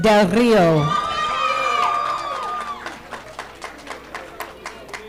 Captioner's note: audience applauding